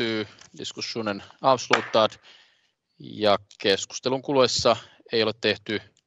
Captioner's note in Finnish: nuijan kopautus